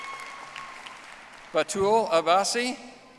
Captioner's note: audience applauding